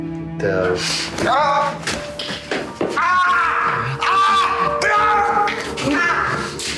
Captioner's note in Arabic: يئن بيير; آهات